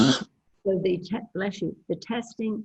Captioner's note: coughs